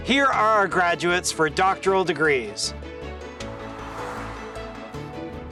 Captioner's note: air whooshes